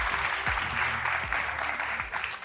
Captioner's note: applause